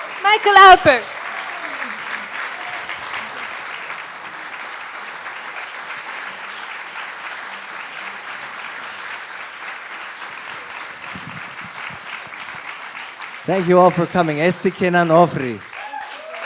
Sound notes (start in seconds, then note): 1.7 applause; 16.2 applause